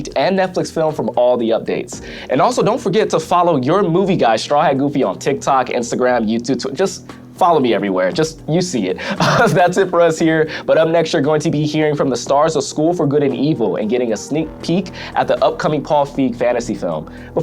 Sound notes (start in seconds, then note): 9.0 laughs